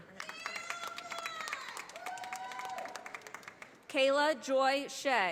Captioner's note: audience applauding